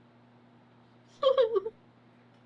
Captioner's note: laughs